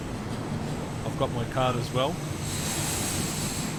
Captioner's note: train